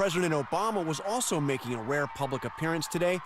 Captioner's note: applause